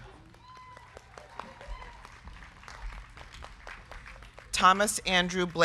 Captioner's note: crowd cheering; crowd clapping